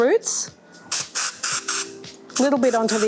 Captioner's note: spraying